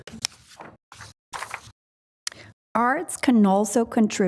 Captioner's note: none